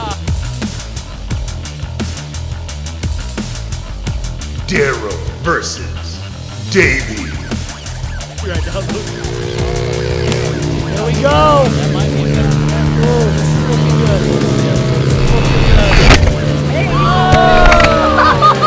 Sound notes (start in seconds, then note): 0.2 moderate rock music; 3.9 voiceover; 14.8 laughing